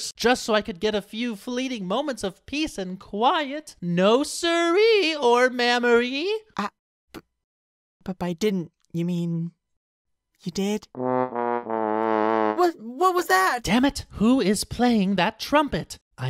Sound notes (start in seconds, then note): 6.5 pinkie stammers; 10.9 incidental trumpet